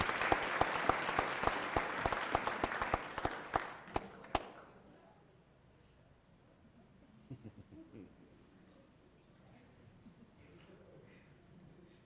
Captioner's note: applause